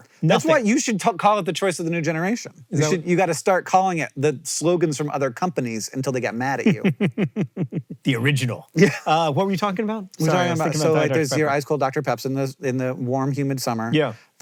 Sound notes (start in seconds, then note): 6.6 chuckles; 8.7 HANK wheeze-laughs